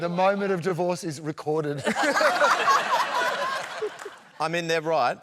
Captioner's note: laughter